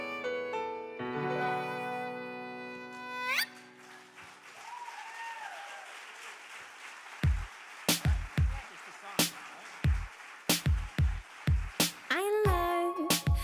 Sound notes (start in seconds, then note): 3.8 audience applauds; 7.9 pop beat music